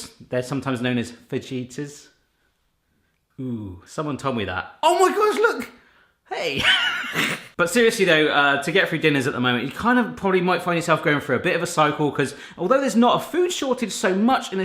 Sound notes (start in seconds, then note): 6.4 laughing